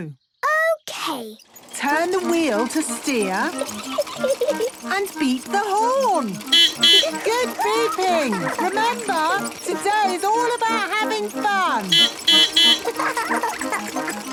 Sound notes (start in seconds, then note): 1.8 giggling; 6.1 beeping; 11.5 beeping; 11.5 laughing